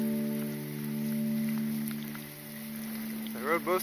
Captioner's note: rain